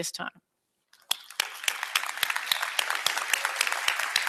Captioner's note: applause